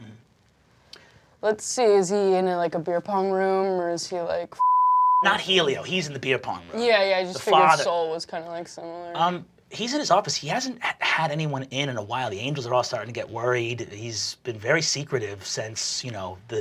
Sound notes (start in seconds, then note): 4.6 beeping